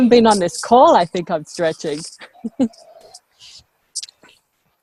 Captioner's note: chuckles